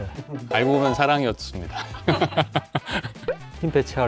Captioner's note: laughs